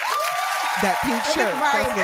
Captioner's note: applause